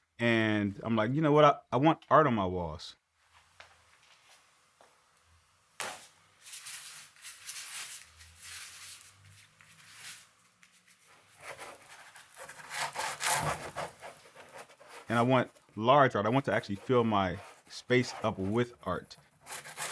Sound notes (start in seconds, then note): 6.4 bristles scuffing broadly